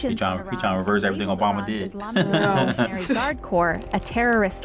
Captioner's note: chuckles